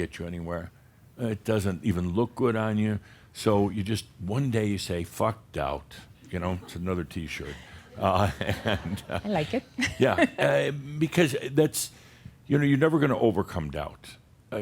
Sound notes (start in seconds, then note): 6.4 Adamus chuckles; 7.3 she giggles